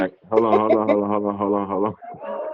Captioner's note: laughs